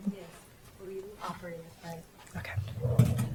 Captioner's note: woman murmuring